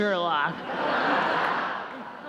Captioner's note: laughter